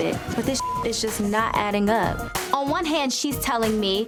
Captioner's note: beep